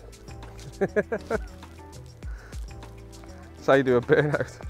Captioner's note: laughs